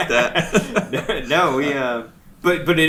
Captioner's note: laughs